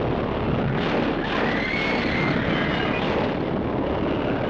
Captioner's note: kay screams